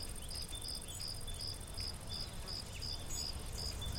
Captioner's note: crickets chirping